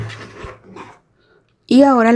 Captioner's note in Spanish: resoplido